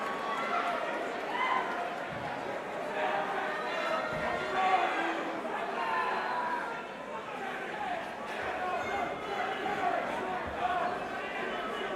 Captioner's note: crowd chatter